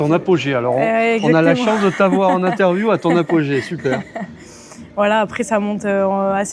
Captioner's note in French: rires